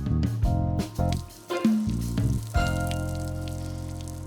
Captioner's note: bright music; water gurgling